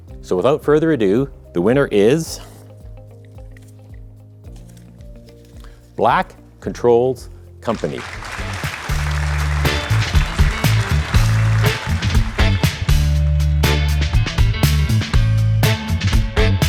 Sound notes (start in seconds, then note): 7.7 audience applauding; 7.7 upbeat music